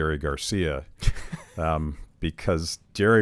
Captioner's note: laughs